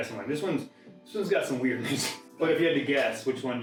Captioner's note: laughing